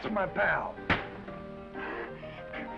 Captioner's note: hand thuds; Esther chuckles